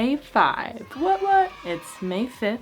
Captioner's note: children cheering